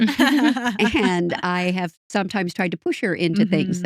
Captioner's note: laughing